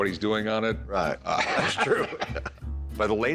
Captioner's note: laughter